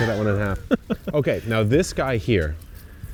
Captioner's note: laughs